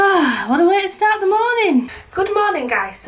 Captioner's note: sighing